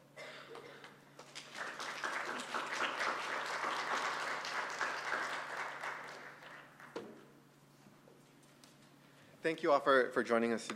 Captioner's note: applause